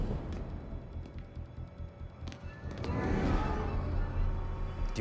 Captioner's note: footsteps tapping